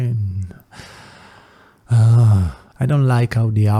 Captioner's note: big exhale